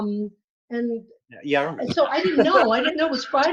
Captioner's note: laughs